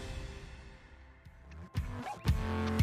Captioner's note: laughs